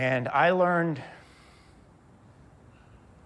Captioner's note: sighs